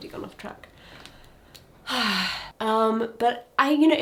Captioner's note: person sighing